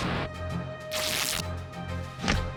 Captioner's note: ripping